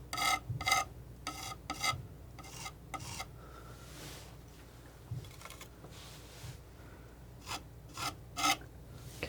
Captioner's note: scratching